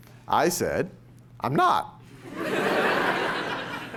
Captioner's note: laughter